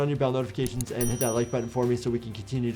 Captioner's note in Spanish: suena la campana